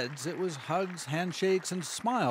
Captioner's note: applause